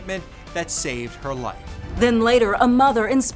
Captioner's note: graphics whooshing